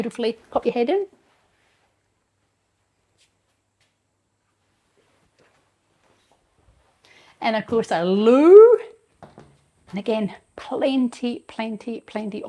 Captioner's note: silence